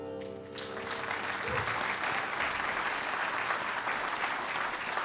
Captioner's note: applause